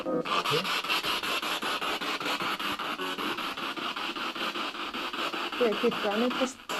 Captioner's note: radio noise from the spirit box